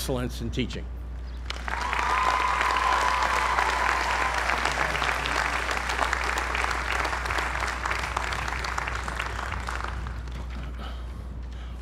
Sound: applause

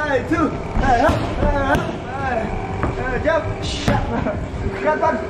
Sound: grunting and laughter

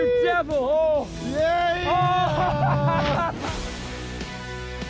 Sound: laughs; upbeat music

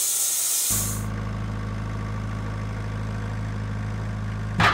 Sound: forklift engine roaring

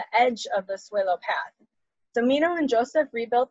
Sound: speaks Spanish

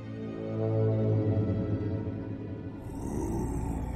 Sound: groaning

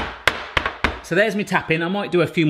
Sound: tray banging

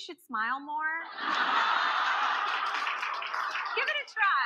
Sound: audience laughing

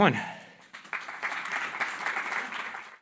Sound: applause

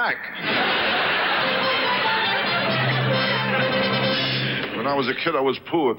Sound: audience laughs; orchestra riffs

